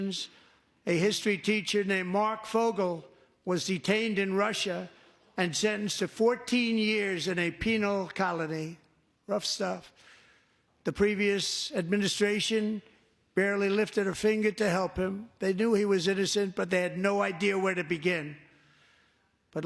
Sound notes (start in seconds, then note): none